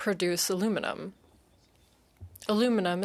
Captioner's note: speaking French